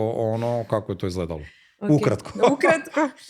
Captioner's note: laughter